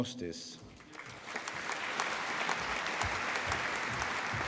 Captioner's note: applause